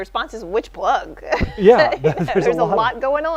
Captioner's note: chuckle